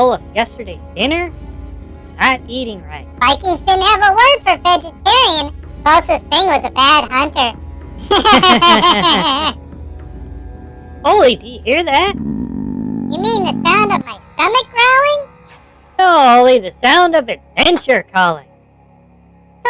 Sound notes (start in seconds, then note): 8.0 they both chuckle